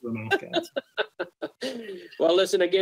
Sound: laughs

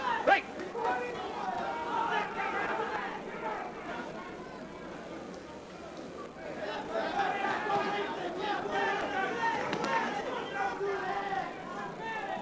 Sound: yelling and cheering from audience

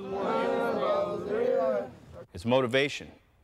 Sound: chanting

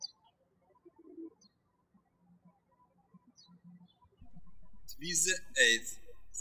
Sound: birds chirping

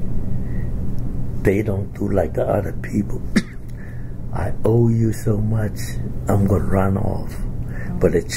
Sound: coughs

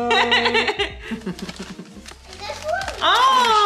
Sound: laughing

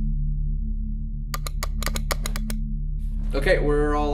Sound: buttons rapidly click

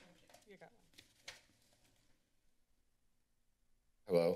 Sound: silence

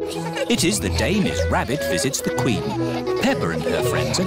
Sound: all giggling

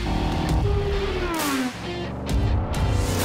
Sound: jetboat sounds; car speeding; jetboat sounds

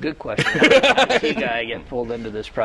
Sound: laughter

